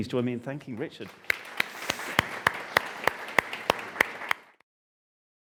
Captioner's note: audience applauding